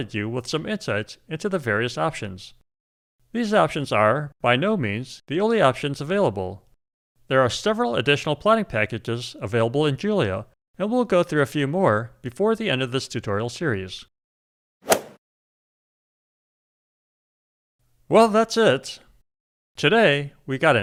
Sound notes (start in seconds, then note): 14.8 golf swing sound effect